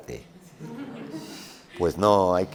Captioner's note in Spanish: Risas